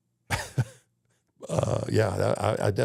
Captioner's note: Undertaker chuckling